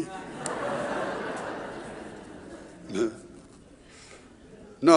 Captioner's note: audience laughing